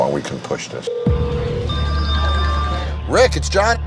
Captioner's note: phone rings